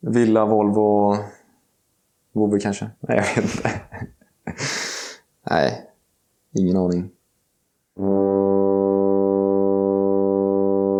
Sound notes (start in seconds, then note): 3.1 laughter